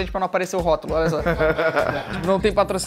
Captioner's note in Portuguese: risadas